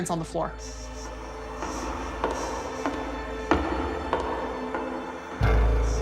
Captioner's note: footsteps